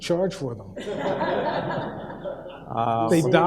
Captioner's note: audience laughs